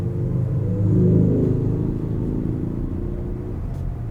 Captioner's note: sound of unnecessarily loud Harley motorcycle goes